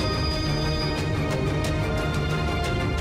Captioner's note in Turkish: Telefon çalıyor